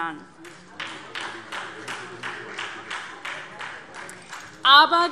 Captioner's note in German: Beifall SPD